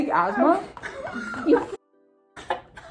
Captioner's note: laughs